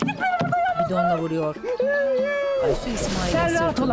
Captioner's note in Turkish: Aysu ağlama sesi